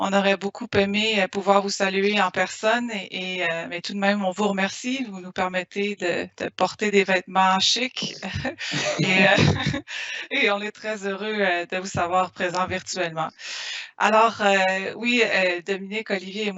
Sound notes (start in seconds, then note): 8.0 laughing; 10.7 speaking in foreign language